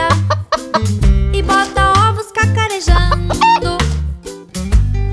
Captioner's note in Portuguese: som de galinhazinha; som de galinhazinha